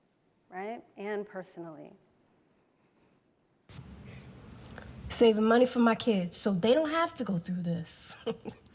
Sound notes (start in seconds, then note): 8.2 chuckles